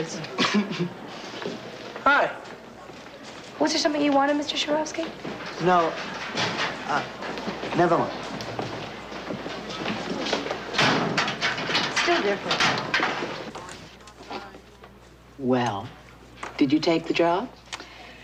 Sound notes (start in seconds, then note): 0.4 snickers; 9.6 locker bangs